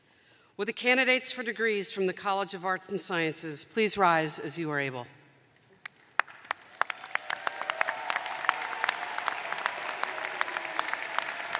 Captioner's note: cheers and applause